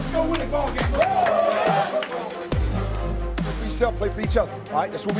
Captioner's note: cheering